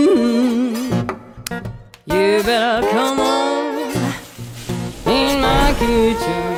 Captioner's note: food sizzles